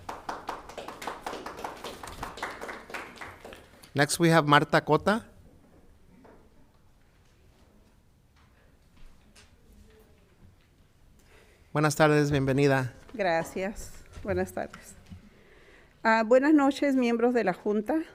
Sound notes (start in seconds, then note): 0.0 audience clapping; 12.1 speaking in foreign language